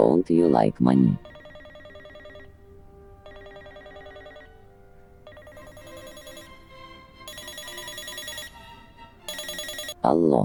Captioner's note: phone ringing